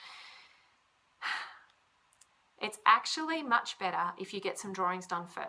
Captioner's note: sighs